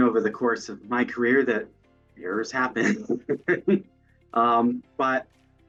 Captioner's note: chuckles